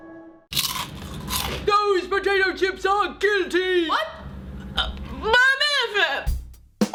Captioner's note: Crunch